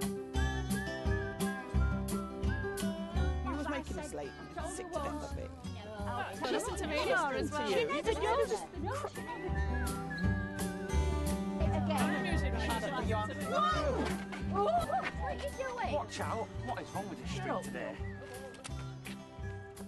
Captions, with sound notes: (chattering) Whoah! What're you doing? Watch out! What is wrong with this street today?